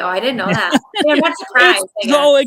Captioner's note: laughing